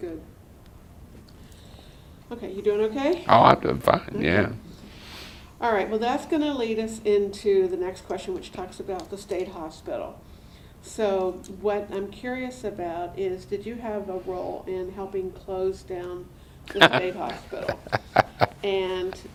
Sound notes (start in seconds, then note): 16.6 laughter